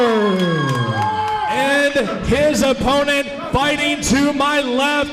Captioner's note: crowd cheers